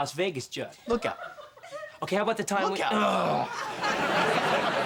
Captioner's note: growls